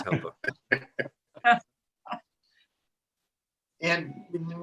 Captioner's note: laughs